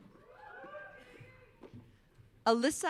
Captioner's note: audience cheering